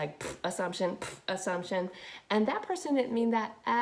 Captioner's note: spitting noise